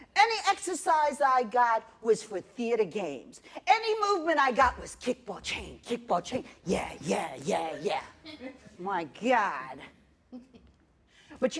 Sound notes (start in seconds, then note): 8.2 laughter